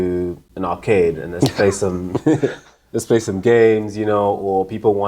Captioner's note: laughing